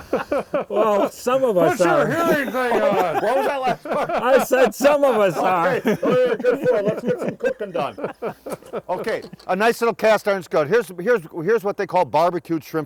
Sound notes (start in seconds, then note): 1.8 laughter; 7.9 laughter